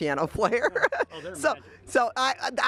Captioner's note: laughs